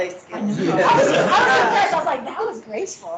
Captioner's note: laughing